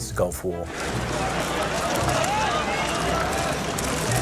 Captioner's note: loud chatter